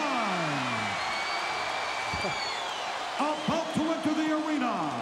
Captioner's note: audience cheering